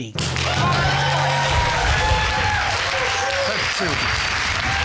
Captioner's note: audience cheering